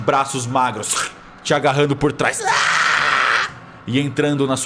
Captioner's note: screams